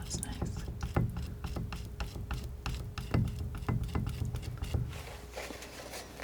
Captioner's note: scraping